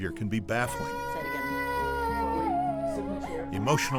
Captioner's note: girl Crying